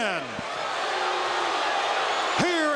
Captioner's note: audience shouting